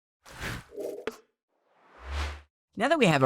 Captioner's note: swoosh sound